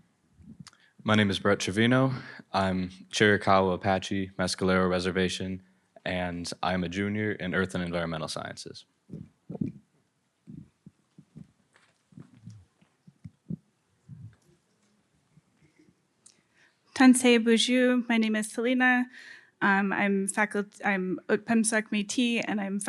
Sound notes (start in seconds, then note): 17.6 greets in Ojibwe